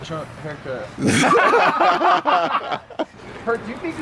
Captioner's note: laughs